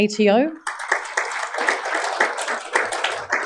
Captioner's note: applause